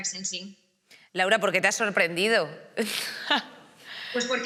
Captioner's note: she laughs